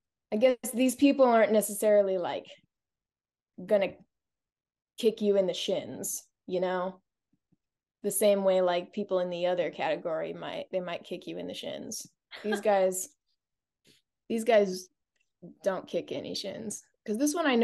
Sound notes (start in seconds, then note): 12.4 laughs